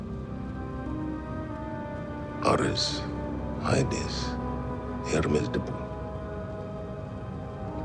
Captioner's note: speaking Greek